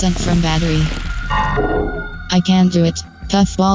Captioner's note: electronic failure noise